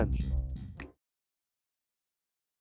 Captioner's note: finger snaps